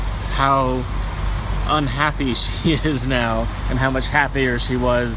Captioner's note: chuckling